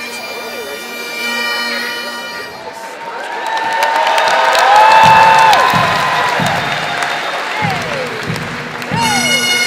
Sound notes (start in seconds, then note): 4.1 crowd cheering and chattering